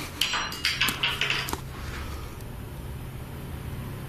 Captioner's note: clattering